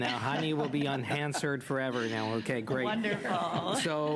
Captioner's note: laughter